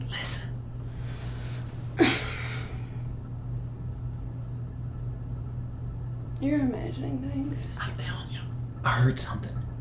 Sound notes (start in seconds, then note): 1.9 sighing